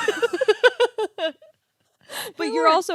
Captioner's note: laughing